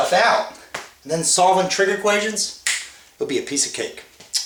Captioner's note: fingers snapping